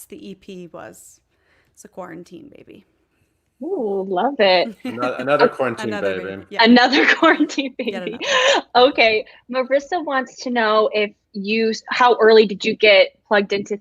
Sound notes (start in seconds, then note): 4.6 laughs